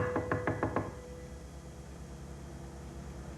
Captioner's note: knocking at door